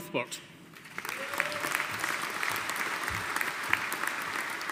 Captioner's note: audience applauding